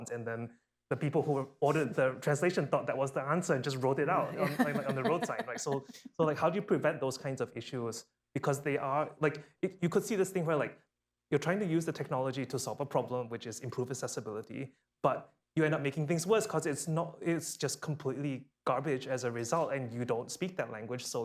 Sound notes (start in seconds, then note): 4.2 laughter